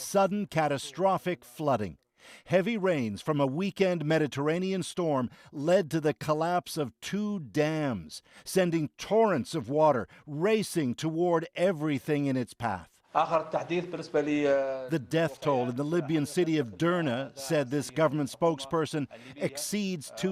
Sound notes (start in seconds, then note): 14.4 speaking alternate language